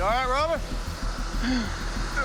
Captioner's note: groaning